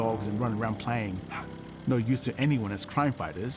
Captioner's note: dog barking